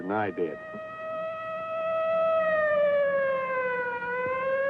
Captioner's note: siren wailing